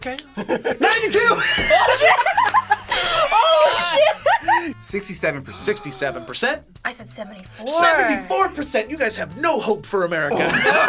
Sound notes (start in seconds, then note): 1.1 laughs; 5.4 gasps; 10.3 laughs